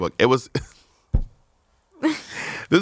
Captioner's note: laughs